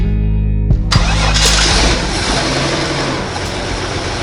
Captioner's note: engine Starting